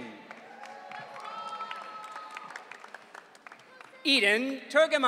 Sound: audience cheering

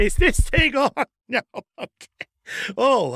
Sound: taps microphone

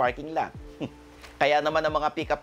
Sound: chuckles

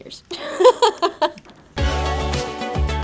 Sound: laughs; groovy, cheery music

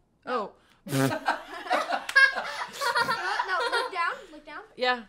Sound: laughs

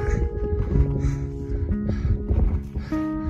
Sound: hard breathing

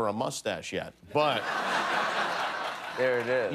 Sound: laughter

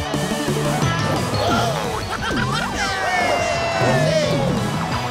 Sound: all cheering and laughing

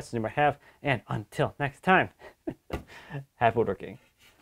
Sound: chuckles

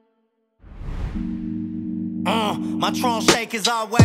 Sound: air whooshes; hip hop music

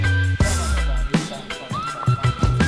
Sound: haha

